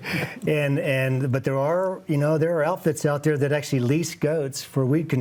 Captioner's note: laughs